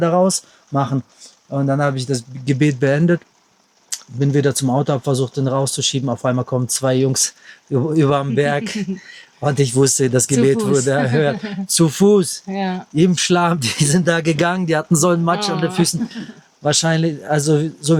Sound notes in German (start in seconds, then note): 11.6 gelächter